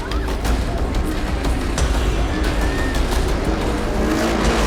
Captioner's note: engines whirring